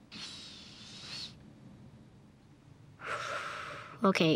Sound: kids breathing deeply

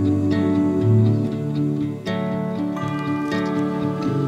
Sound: singing; bells ringing; squirrel eating

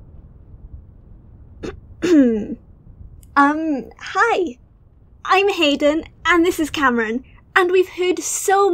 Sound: clears throat

